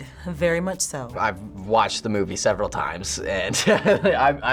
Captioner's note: laughing